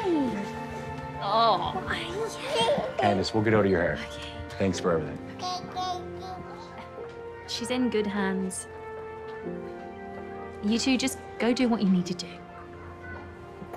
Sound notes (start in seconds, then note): 5.7 baby cooing happily